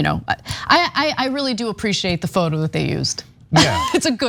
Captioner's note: laugh